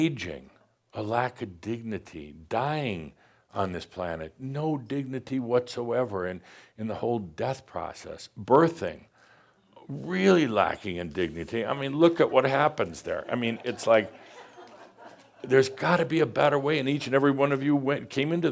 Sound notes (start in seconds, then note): 13.1 some chuckles